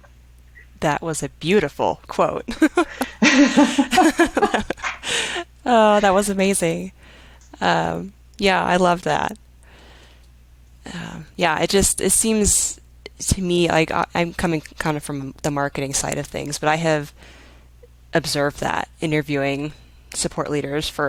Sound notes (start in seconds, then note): 2.5 women laughing